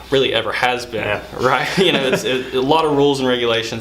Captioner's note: laughing